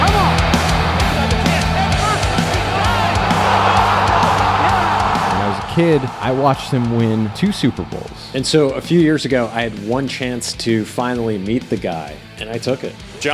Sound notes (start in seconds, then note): 0.0 energetic rock music; 3.9 crowd roars